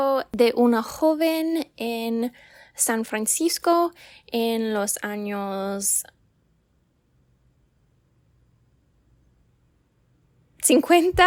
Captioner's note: silent